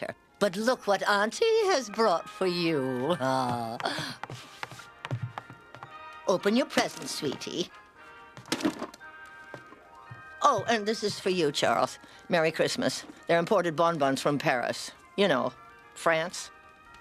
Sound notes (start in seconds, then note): none